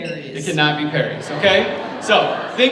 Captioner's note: audience laughs